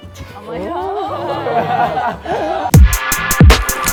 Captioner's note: group oohs and ahhs; hip hop music